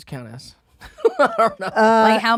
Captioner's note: laughs